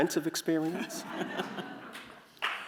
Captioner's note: laughter